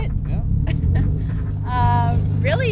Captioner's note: laughing